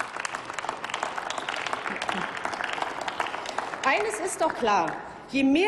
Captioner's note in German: Applaus